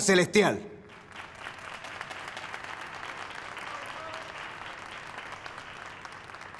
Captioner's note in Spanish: Aplausos